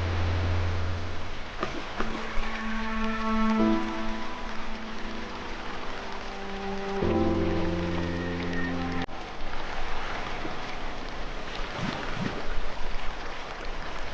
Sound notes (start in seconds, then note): 0.0 water, nature sounds; 0.6 water, splashing, dramatic music, choking